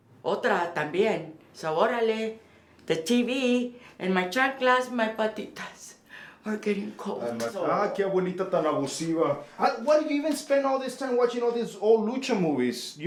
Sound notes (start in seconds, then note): 0.2 Spanish; 4.9 Spanish; 7.5 Spanish